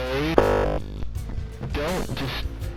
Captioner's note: glitching noise